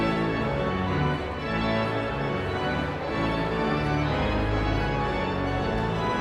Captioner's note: energetic organ music continues; audience chattering continues